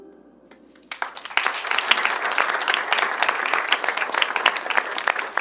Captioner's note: audience applauds